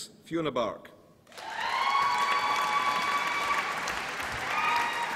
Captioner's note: applause and cheering